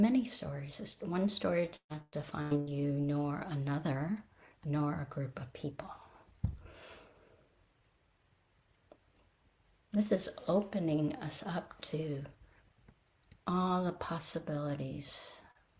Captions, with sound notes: many stories. There's not one story that defines you; nor another. Nor a group of people. [pause] This is opening us up to… all the possibilities.